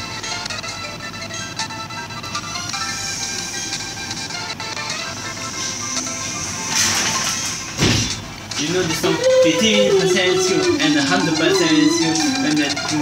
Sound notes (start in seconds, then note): 2.4 door Slammed; 2.4 door creaks; 7.7 window furiously slid open